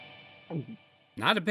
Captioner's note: gulp